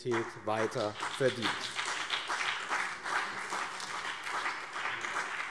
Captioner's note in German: Beifall BÜNDNIS 90/DIE GRÜNEN und CDU